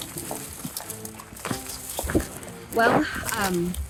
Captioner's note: footsteps